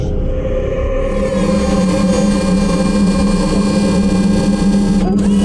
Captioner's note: mechanical whirring